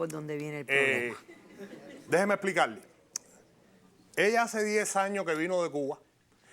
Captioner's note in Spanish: Risas del público